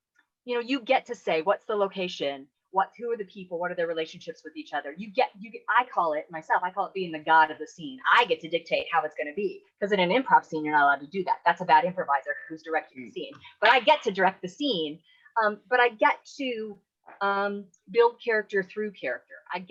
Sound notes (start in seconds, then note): none